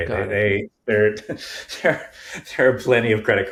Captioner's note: chuckling